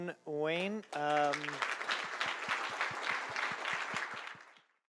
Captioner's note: applause